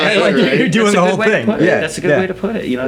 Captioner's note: all laughing